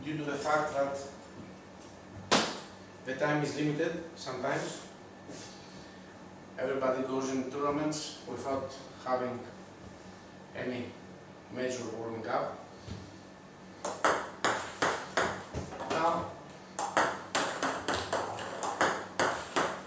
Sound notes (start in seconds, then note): 14.2 ball ping pong hitting